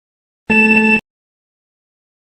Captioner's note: timer beeps